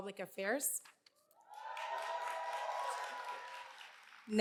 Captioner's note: cheers and applause